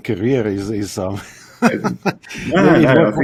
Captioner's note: laughs